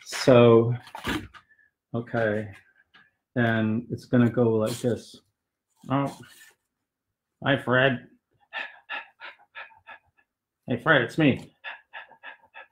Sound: in puppet voice 1; panting

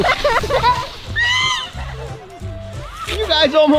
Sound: laughs

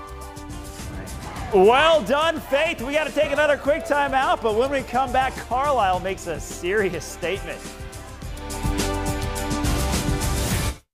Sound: cheers

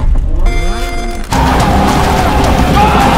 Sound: tires screeching

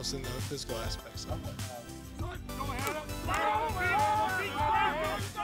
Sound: collective yelling

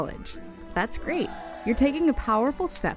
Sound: cheering

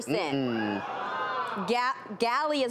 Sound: audience gasps

